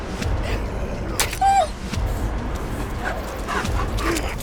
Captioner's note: knife hacking; wolf yelping; wolf panting